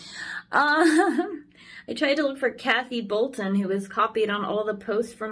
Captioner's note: gigles